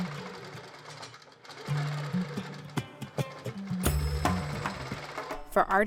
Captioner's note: sewing machine whirs; light airy music